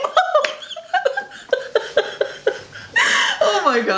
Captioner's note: both laughing